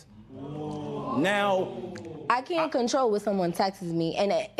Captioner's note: spectators ohh